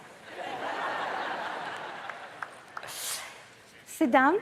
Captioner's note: audience laughs